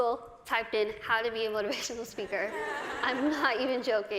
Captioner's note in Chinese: 大笑